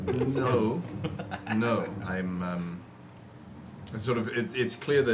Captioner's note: laughs